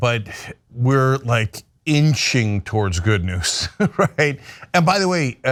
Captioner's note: laugh